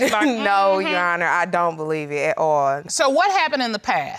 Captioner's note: giggles